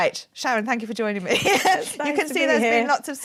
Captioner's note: laughing